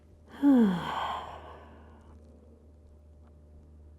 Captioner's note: sighing breath